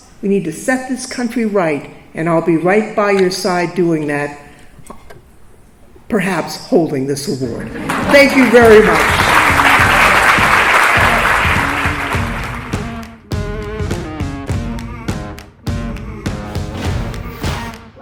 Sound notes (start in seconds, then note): 9.4 crowd applauds; 12.8 upbeat, guitar music